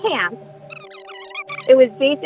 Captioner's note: high-pitched, indistinct chatter